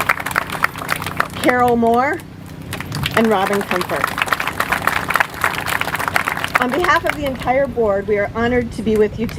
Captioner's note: applause; applause